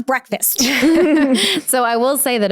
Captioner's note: chuckling